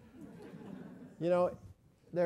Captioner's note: laugh